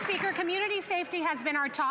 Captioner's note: some Applause